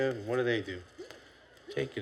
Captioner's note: none